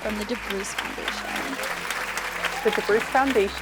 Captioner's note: audience applauding